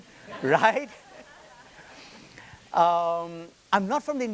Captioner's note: attendees laughing